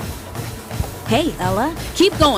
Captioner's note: app Voice